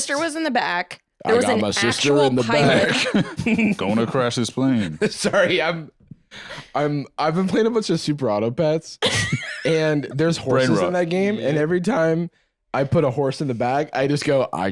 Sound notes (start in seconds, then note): 5.2 giggles